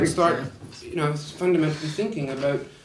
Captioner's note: laughs